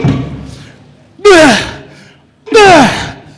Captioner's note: grunting